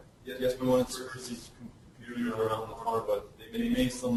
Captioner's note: distorted speech